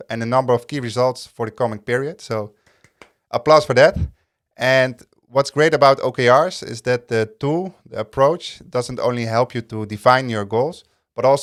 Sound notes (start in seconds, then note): 2.7 clapping